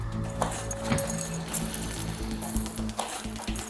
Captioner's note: keys jingle